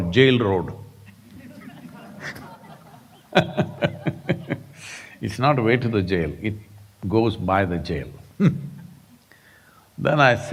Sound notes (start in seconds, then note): 1.0 laughter; 8.6 laughs